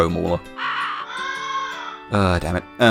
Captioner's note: loud cawing